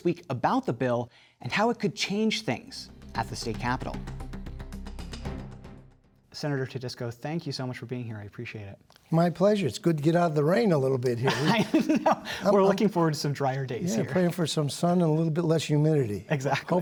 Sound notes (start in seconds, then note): 11.2 laughter